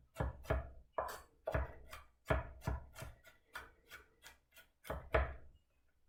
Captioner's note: knife chopping